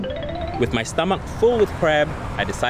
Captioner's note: voiceover